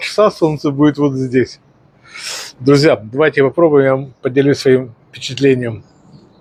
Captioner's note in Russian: фыркает